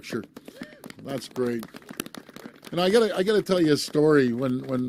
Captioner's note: applause